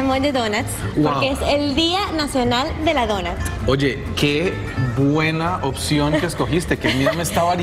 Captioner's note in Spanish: audio en ingés